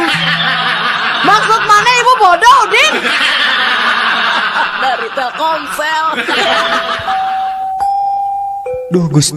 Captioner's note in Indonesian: tertawa; tertawa